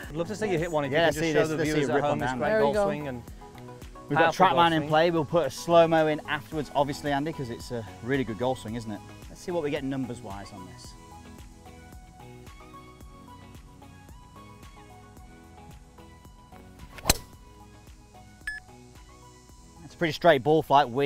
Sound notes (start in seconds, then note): 11.2 upbeat music; 16.9 golf shot